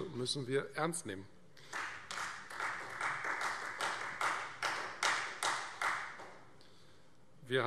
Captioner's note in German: Beifall Freie Demokraten